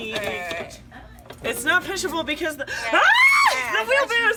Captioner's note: screams